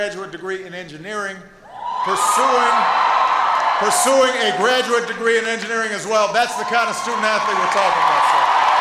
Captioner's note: applause